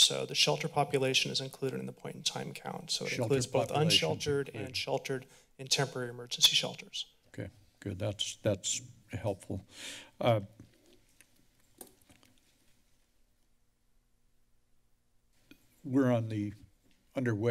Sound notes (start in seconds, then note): 10.7 silence